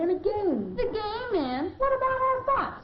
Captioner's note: mockingly